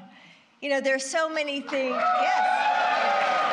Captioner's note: applause